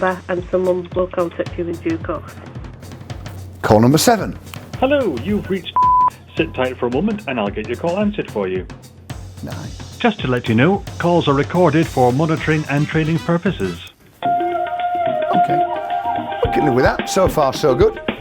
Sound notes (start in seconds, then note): 5.7 beep; 14.2 upbeat music